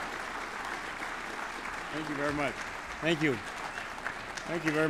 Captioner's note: applause